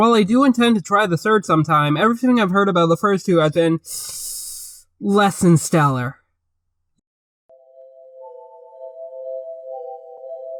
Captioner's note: mouth noises